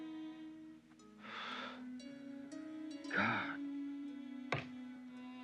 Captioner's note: sighs